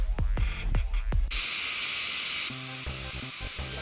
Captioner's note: TV Static